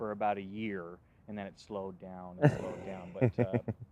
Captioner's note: laughs